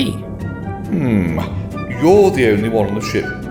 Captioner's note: ape noises